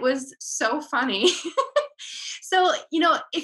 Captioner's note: laughing